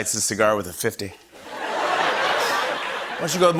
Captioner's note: laughter